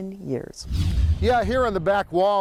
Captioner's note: air whooshing